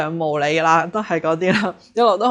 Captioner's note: laughs